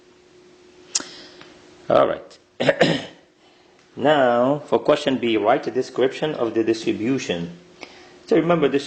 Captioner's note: clears throat